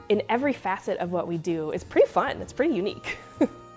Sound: giggling

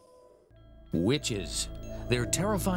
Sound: voiceover

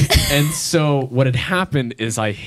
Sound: laughs

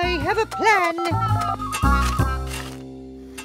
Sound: dial tones

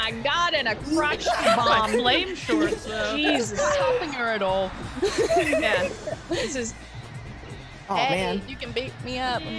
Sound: laugh

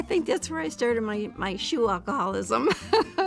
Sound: chuckles

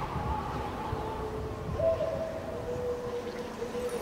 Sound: owl hooting

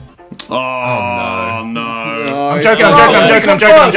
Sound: groans

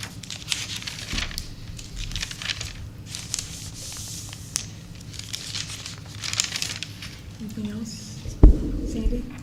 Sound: papers rustling

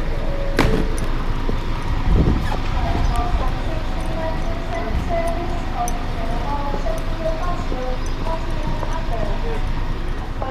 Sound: announcement in background

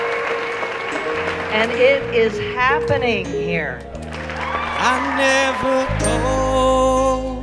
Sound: clapping

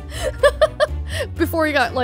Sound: laughs

